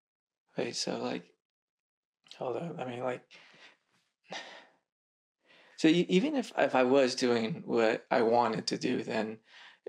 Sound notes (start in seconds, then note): 3.3 breath; 4.3 he sighs